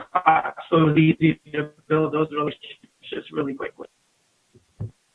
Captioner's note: audio gets choppy